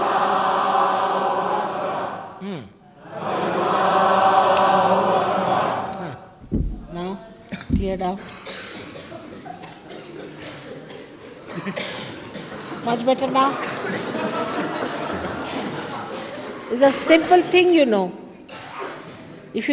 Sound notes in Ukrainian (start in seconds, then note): 8.1 знову починають кашляти!